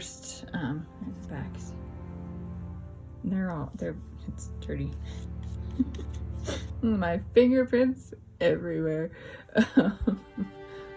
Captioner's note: laugh